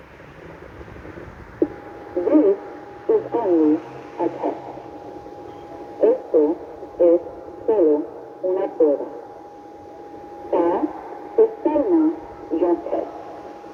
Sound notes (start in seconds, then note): 0.3 feedback noise; 1.6 slight grumbling